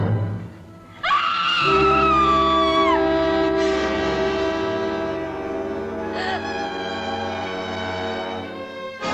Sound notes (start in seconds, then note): 1.0 screaming